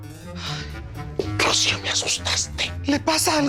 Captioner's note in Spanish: Susurra